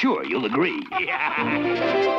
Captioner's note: laughing; chiming music